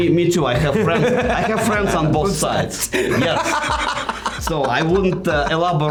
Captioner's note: laughing